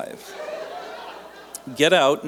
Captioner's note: laughter